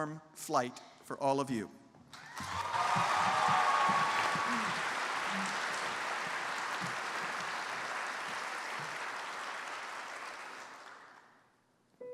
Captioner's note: applause